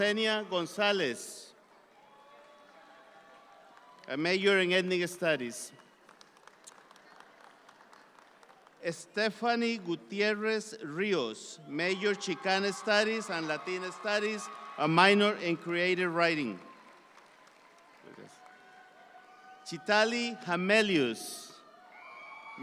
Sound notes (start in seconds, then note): 6.4 audience claps; 11.9 audience applauds